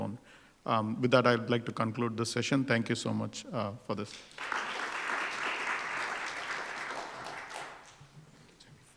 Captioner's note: applause